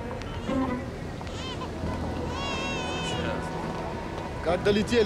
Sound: baby cries

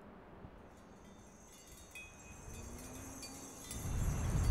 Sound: bells jingling

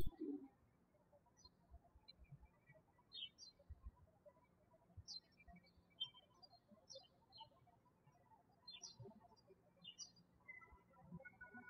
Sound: birds chirping

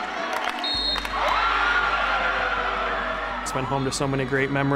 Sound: scattered applause; audience cheering, screaming; whistle blowing

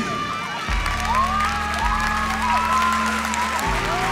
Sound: crowd cheering

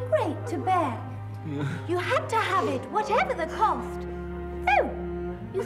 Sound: sobbing

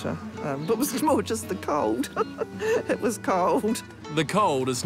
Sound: laughs

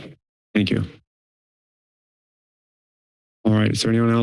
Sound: silence

